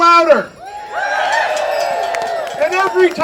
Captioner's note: audience cheering